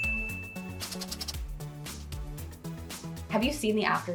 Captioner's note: bell dings; pen scratches